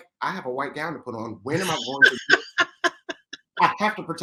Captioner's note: laughs